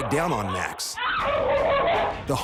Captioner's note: pit bull barking; Max whines